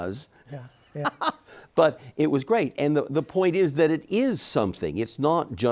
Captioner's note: laughs